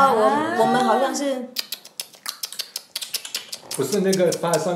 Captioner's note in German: 輕彈舌聲